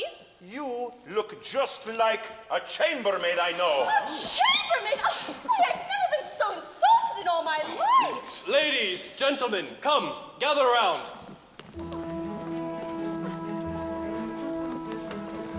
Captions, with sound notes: - You look just like a chambermaid I know. - A chambermaid, why I've never been so insulted in all my life! - Ladies, gentlemen, come, gather round. (footsteps thudding) (light orchestral music)